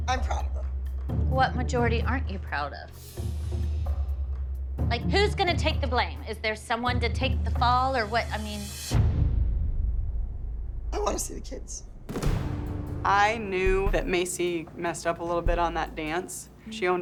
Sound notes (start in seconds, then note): none